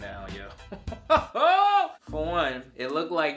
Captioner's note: laughs